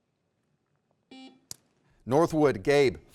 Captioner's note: buzzer beeps